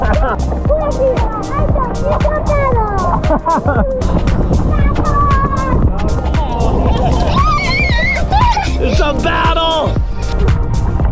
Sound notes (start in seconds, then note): 6.4 screaming